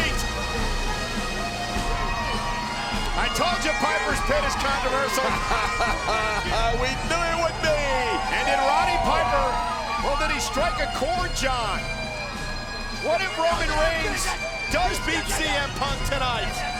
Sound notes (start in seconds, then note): 0.1 bagpipe music plays; 5.1 JBL laughs